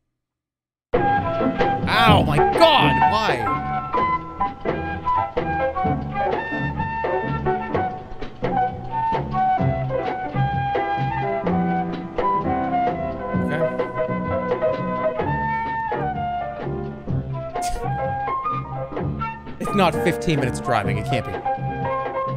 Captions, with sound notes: Ow, my god! Why? Okay. [scoffs] It's not 15 minutes of driving, it can't be.